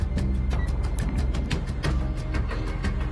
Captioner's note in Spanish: Pitido